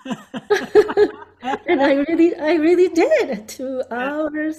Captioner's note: laughing